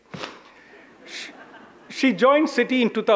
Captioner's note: audience chuckles